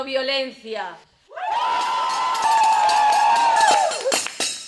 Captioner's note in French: Cris de liesse